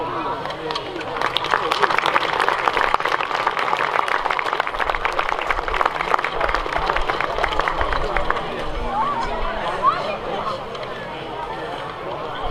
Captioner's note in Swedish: Applåder